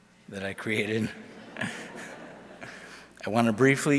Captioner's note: audience laughs